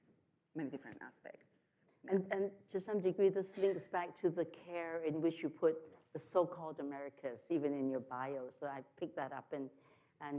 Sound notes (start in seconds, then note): none